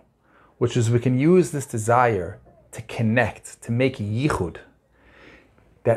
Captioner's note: Hebrew language